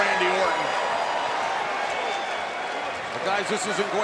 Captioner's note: applause